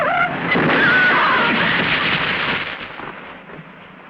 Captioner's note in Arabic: صرير الإطارات; امرأة تصرخ